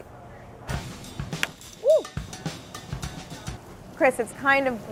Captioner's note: oil popping